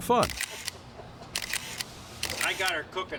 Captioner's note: camera shutter clicking